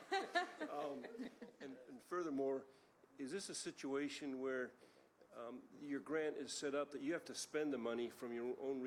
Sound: laughter

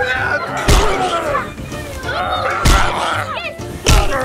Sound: groans

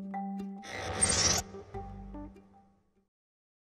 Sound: mechanical sfx

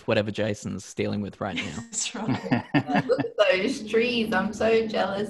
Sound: laughs

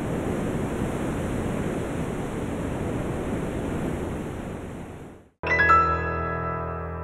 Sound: surf roaring

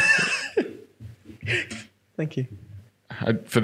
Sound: laughing

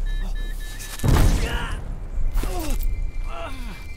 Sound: scream; explosion

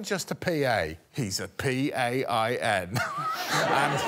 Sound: laughs; audience chuckling

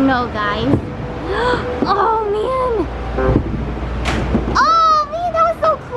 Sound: gasping

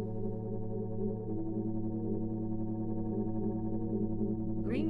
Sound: electronic humming

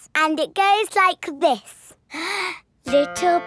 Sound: inhales

